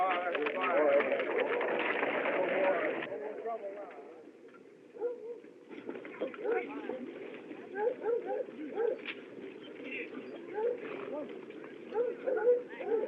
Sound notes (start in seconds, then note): 1.8 chattering; 5.1 dog Barking